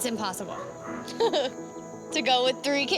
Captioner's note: laughs